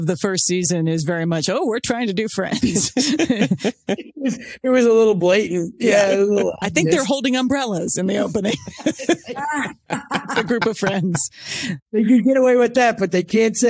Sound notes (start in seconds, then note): 8.1 laughing